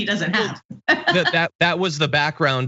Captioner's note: laugh